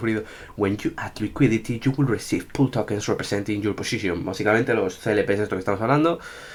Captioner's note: starts speaking in english